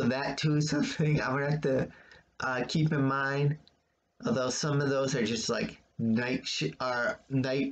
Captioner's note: chuckles